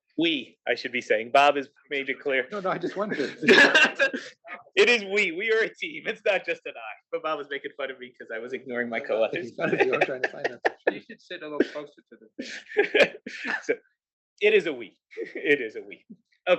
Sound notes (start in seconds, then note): 2.2 laugh; 10.5 laugh; 12.3 laugh